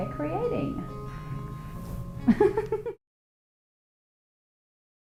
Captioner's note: laughing